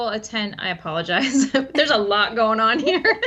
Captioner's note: laughs